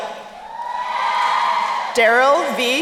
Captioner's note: crowd cheering